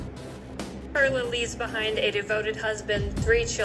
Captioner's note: on TV